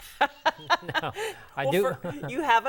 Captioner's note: laughing